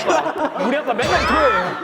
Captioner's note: ahaha